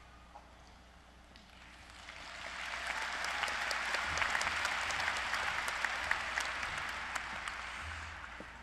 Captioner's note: applause